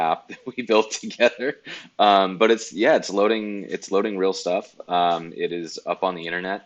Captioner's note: laughs